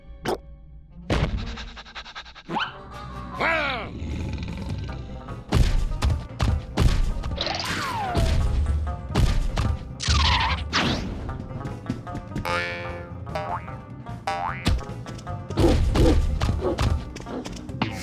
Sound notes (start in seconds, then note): 1.4 panting; 3.6 growling; 5.5 thumping; 9.9 screeching; 13.3 boing; 13.4 boink; 16.6 barking